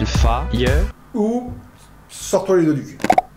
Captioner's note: sound of fingers being taken out of ass